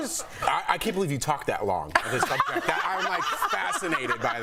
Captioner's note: laughter